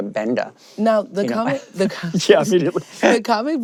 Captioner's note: laughs